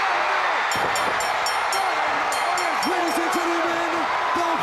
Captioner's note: bell ringing